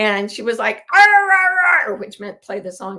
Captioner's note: mimics a baby babbling